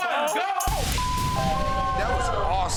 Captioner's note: beep